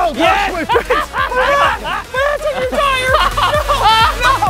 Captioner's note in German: gelächter